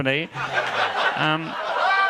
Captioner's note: audience laughing